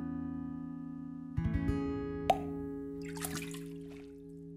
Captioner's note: fish jumping